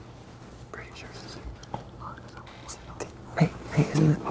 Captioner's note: students whispering